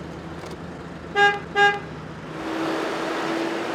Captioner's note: engine revs; horn honks; engine revs